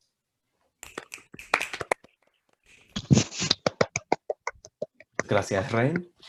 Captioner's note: clapping